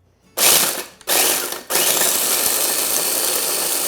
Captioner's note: blender whirring